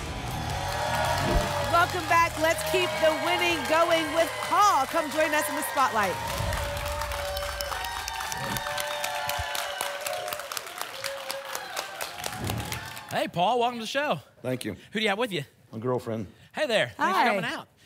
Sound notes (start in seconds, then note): 0.1 applause and cheering; 6.9 applause and cheering; 8.4 whoosh; 9.4 applause and cheering; 12.2 whoosh